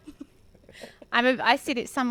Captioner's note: laughs